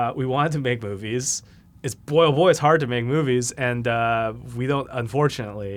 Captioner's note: none